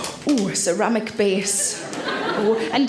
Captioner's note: audience laughs